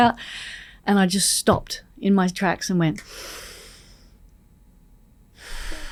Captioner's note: sighs